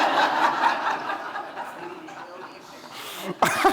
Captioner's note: audience laughing